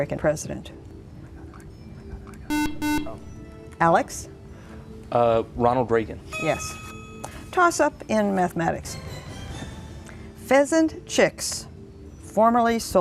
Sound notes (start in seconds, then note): 0.3 buzzer